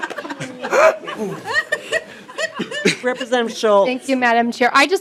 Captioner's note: laughing